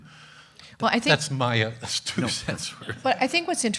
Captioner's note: chuckles